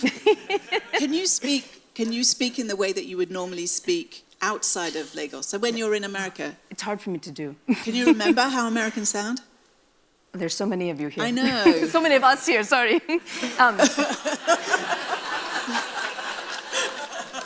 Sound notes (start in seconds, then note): 0.0 laughs; 7.7 laughs; 12.7 laughs; 12.9 audience laughs